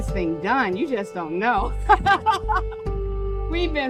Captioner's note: laughing